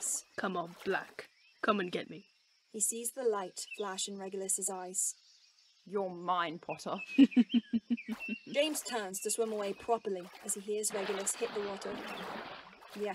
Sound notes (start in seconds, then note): 7.2 James laughs; 11.5 water splashing